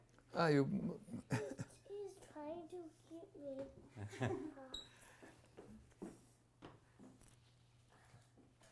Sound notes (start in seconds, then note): 3.9 laughter